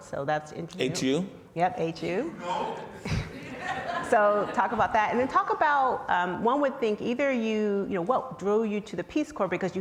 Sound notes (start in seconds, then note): 2.5 man in audience shouts; 2.7 audience laughs